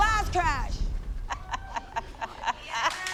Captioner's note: laughing